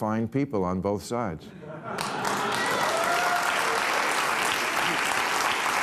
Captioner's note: audience applauidng, cheering